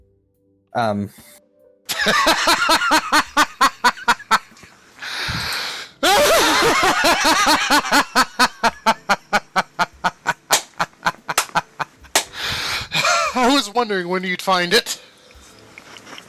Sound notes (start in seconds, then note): 3.4 hysterical Laughter